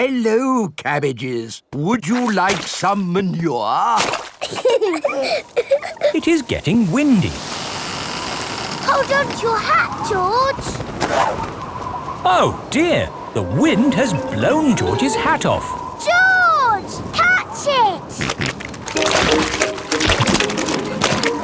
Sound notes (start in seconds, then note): 4.4 both laughing; 18.1 snorting